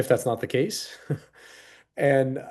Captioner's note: chuckling